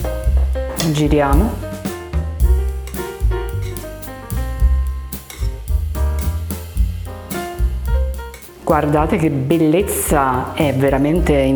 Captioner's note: speaking Italian